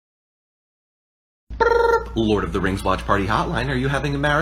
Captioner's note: brrp!